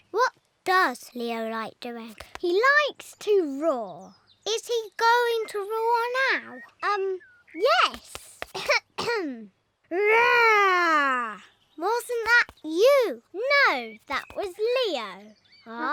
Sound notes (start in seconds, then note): 9.8 roaring